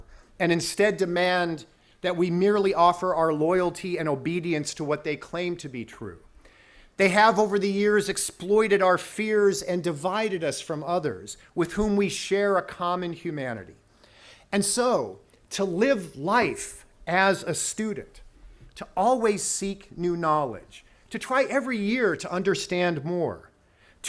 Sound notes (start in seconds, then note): none